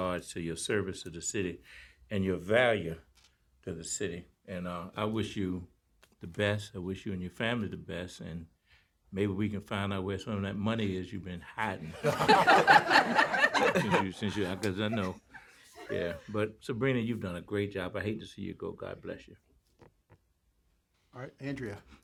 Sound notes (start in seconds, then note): 11.8 laughter